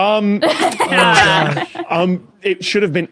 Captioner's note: guests laughing